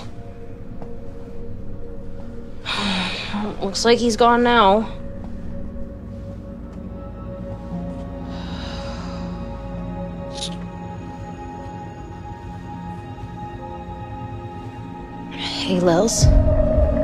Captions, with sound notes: [Sigh] Well, it looks like he's gone now. Hey, Lils,